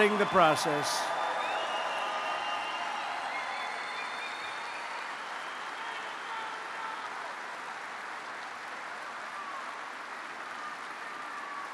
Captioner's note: applause